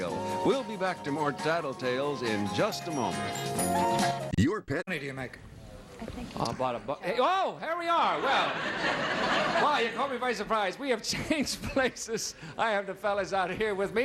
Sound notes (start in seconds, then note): 8.1 audience laughing